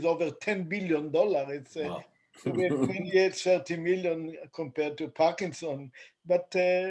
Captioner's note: laughter